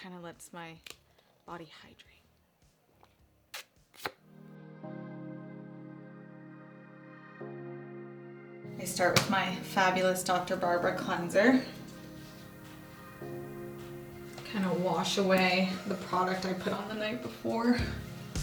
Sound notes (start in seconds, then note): 3.5 smacks; 4.5 soft music